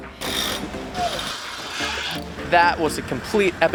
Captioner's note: mechanic whirring